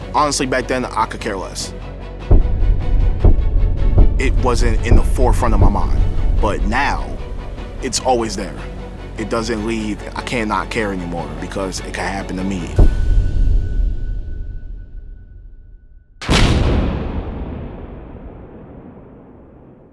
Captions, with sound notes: Honestly, back then, I could care less. [tense music] It wasn't in the forefront of my mind, but now, it's always there. It doesn't leave. I can't not care anymore because it can happen to me. [suspenseful music] [gun firing]